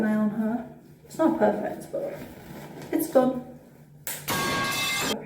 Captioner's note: metal pipe sound effect